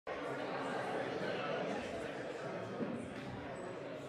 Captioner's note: crowd murmuring